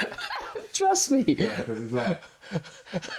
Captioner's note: laughing